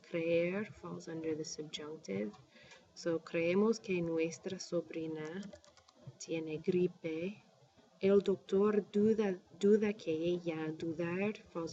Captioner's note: speaking spanish